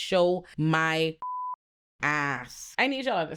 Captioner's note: beep